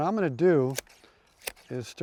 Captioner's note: clippers snipping